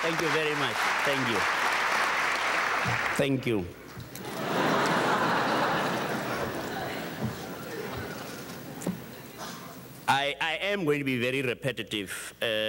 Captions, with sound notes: Thank you very much, thank you, thank you. (audience chuckles) I am going to be very repetitive,